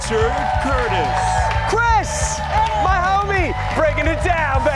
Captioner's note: cheers and applause